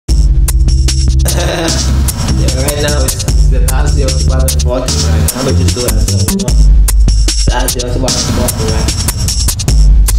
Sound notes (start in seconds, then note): 1.2 chuckle